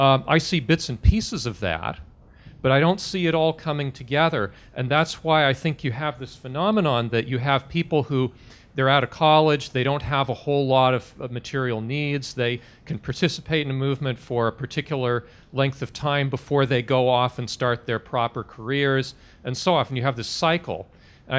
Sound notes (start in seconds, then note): none